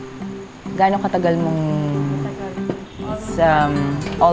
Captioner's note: speaks in local language